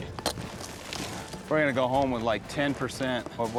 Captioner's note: hammers, rocks fall